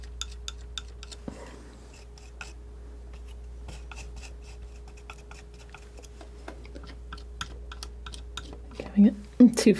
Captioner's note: tapping